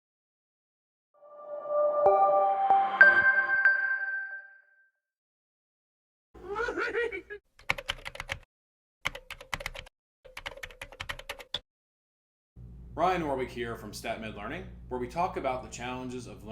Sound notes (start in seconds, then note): 1.4 chiming music; 6.4 Yoda laughing; 8.0 keyboard clacking